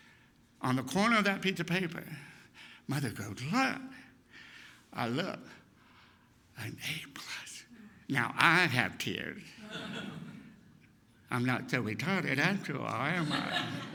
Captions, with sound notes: On the corner of that piece of paper, mother goes, "Look!" I looked. An A+ ! Now I have tears! I'm not so "retarded" after all am I? (laughter)